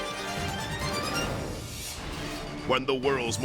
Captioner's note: intense orchestral music; transition whooshes